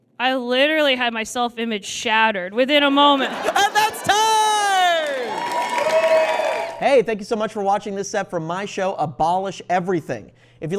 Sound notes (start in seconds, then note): 5.2 audience cheers and applauds